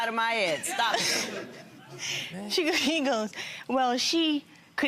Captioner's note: crowd laughing